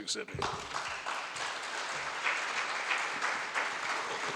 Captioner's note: audience applauds